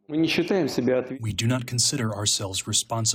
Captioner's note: through translator